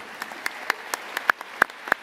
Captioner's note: applause